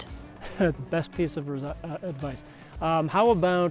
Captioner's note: chuckles